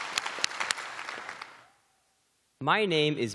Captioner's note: cheering